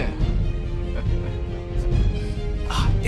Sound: laughing

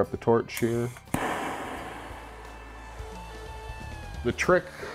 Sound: whoosh! hissing of the flame

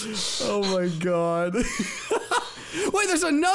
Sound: laughing; laughs

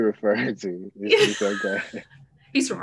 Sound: chuckling

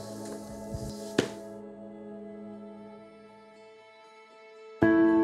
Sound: laptop closes; serene piano music

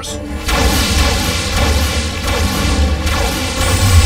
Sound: blasting

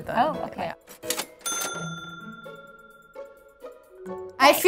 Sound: cash register rings

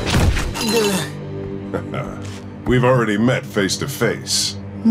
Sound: grunting; chuckles

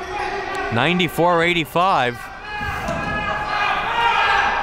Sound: yelling

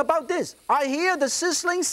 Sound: grill sizzles

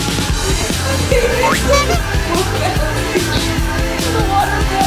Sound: horn honks

